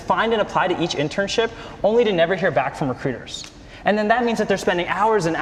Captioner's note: none